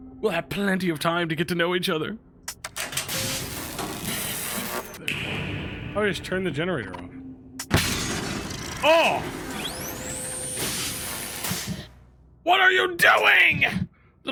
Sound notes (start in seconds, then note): 2.6 electricity crackles; 9.4 electricity buzzes